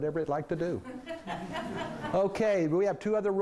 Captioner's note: laughing